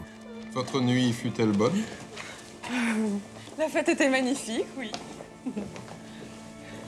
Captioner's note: gentle music; people speaking in French